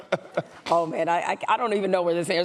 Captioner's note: laughter